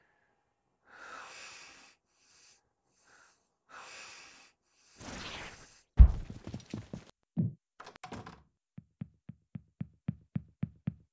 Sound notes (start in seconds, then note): 5.9 thumping on roof; 7.8 door opens